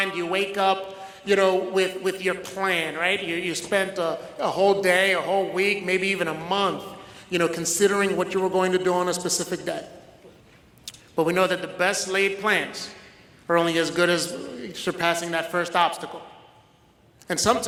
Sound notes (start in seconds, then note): none